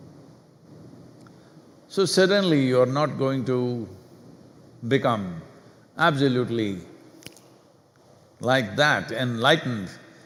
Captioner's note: clicks fingers